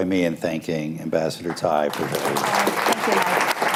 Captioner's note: applause